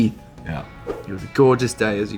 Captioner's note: slide swipe